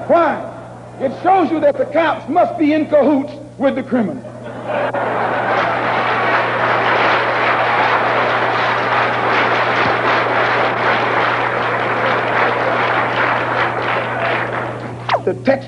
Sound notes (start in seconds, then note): 4.4 laughter, applause